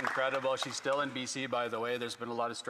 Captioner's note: some Applause